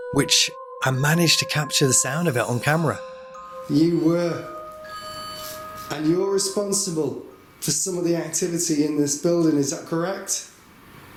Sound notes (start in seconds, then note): 3.4 device beeps